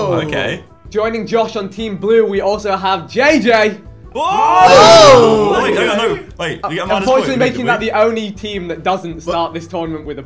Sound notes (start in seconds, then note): 4.2 group oohing